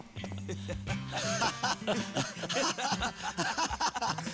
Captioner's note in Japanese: 笑い